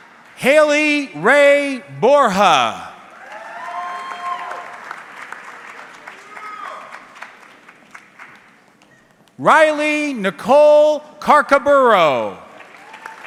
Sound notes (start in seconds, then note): 3.1 audience cheering